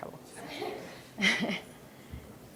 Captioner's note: laughter from room